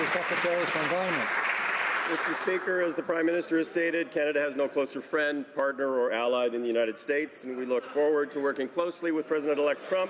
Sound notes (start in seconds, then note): 1.5 some Applause